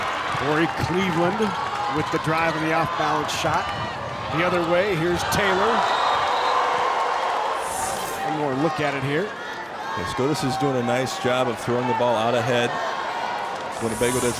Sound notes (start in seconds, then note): 7.1 crowd cheers